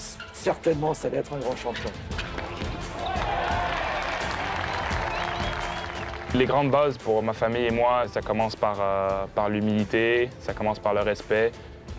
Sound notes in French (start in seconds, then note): 3.0 applaudissements